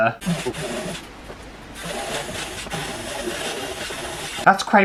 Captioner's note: buzzing